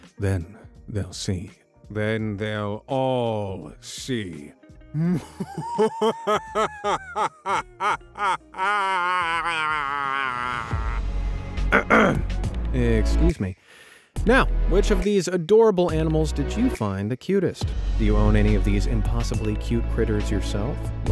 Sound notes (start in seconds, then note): 4.9 narrator manically laughing; 11.1 upbeat music; 11.7 clears throat